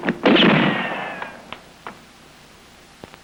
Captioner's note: gun firing